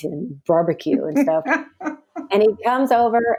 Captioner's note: laughs